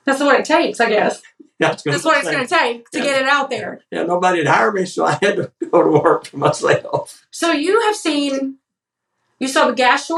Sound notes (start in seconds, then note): 4.2 laugh